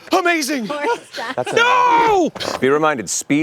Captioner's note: dave from ohio blusters